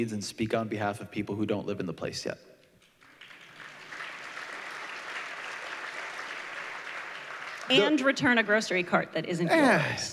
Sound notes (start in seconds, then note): 2.8 applause